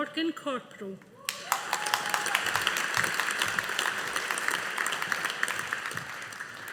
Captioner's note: audience applauding